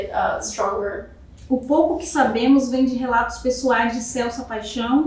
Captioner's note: speaking portuguese